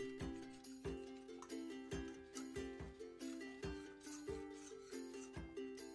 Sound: clattering gently; gentle music

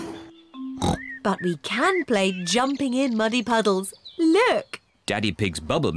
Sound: oinks

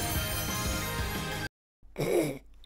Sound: snort

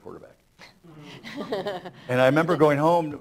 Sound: laughter

